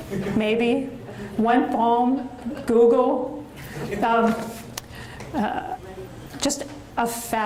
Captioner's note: audience laughs; audience laughs